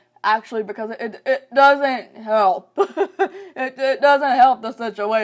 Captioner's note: laughs